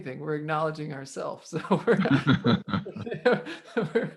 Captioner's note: laughing